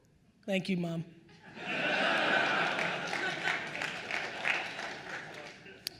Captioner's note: attendees laughing